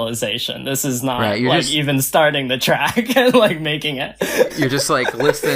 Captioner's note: laughs